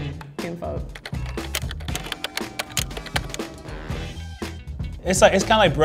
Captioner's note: upbeat music; typing